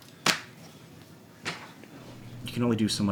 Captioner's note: fingers slapping